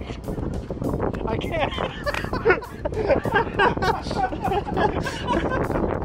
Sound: laughter

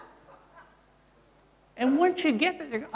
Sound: laughter

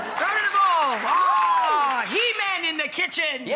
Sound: roars

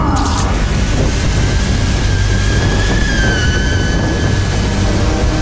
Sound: high-pitched whining

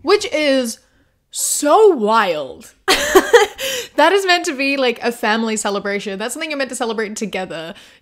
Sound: laughs

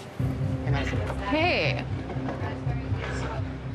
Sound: slurring

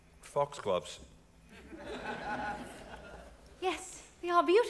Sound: audience laughing

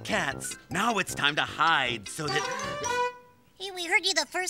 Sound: little cat "c"'s horn blows

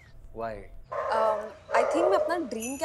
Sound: dog barking

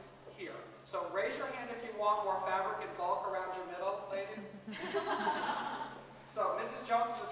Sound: laughter

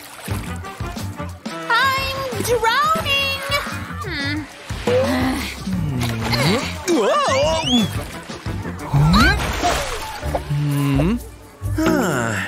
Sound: snoring

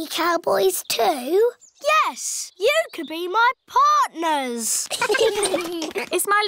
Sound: all giggling

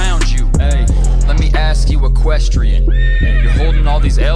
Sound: horse neighs

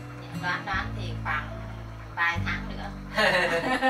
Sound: giggle

